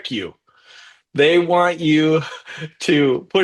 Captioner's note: chuckles